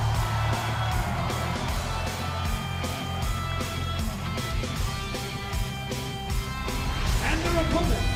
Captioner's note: cheers and applause